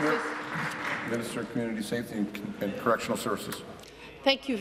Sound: applause

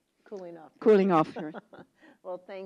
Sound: laugh

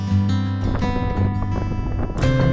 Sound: air whooshing

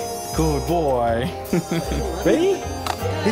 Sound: laughter

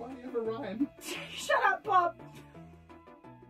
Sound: laughs

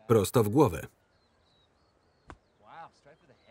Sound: birds chirping

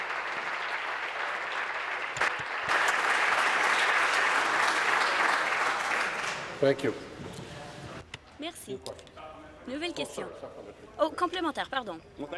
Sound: applause

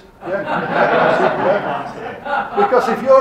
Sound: audience laughing

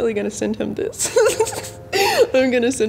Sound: giggling

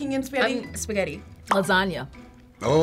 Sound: bubble popping

